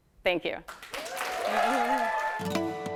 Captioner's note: applause